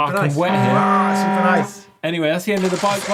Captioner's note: buzzer sounding